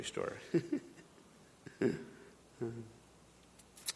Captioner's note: chuckling